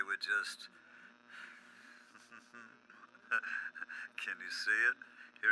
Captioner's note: laughs